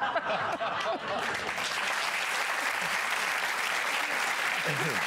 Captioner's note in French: Rires; Applaudissements